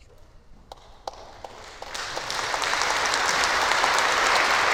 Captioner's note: applause